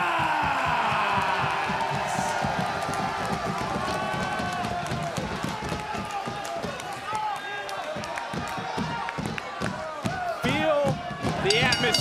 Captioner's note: crowd cheers